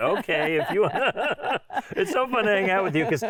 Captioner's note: laughing